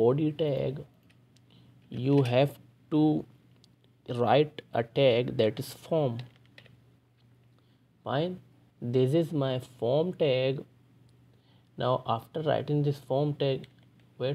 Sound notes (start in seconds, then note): 6.2 typing